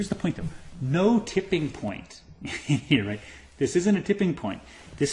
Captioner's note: laugh